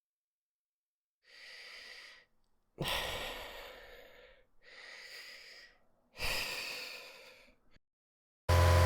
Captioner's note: breathing; chainsaw revving sound, gunshots